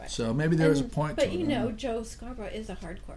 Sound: voiceover

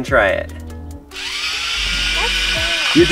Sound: robot buzzing

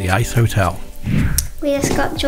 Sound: screen whooshes

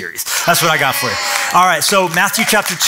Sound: cheering

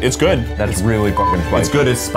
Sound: beep

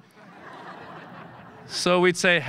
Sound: audience laughing

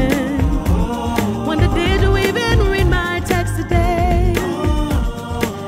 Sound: ooh

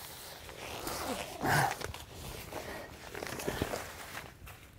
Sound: zipper closing

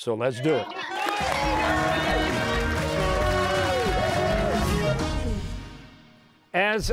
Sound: cheers and applause

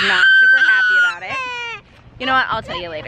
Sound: baby squealing

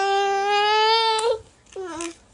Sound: child babbles

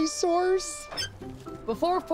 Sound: squeals

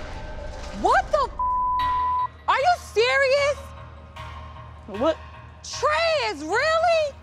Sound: beep

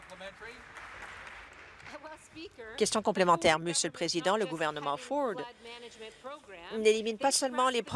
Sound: applause

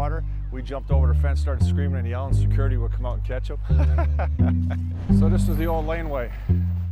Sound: laughter

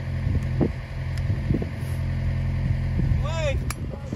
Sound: wire cutters snipping

